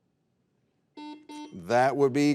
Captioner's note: buzzer beeping